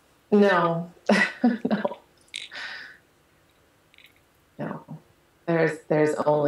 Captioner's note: lacht